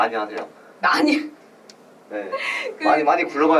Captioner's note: laughs